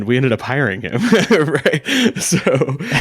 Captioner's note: laughing